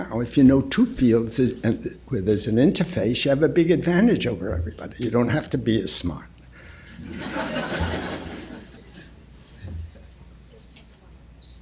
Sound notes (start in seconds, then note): 6.9 laughter